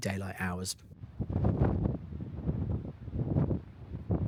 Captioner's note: sound of wind